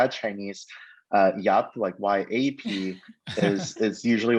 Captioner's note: laughing